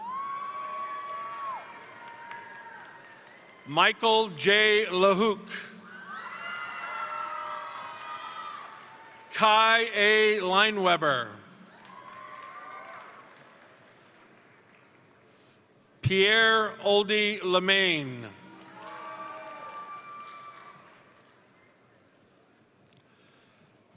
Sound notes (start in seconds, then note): 0.1 crowd applauding; 0.1 crowd cheering; 6.0 crowd applauding; 6.2 crowd cheering; 11.6 crowd cheering; 11.7 crowd applauding; 18.3 crowd cheering; 18.4 crowd applauding